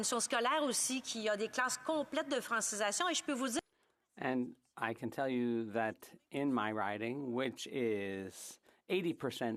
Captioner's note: speaking French